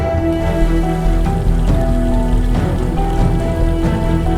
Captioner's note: water splashing